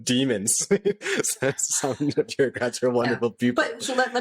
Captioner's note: laughter